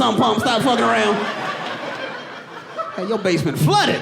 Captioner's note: audience laughing